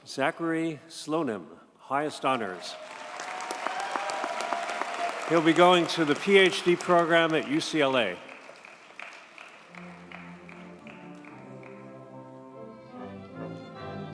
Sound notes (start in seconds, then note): 2.7 audience cheers and applauds; 9.6 triumphant orchestra music